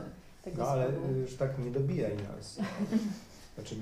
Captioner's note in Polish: śmiech